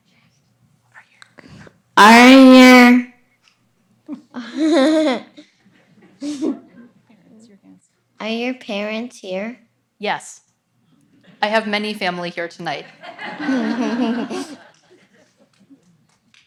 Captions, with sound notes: Are you here? (child laughs) Are your parents here? - Yes. I have many family here tonight. (audience laughs)